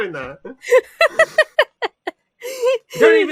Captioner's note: laughs